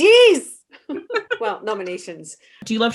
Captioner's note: laughing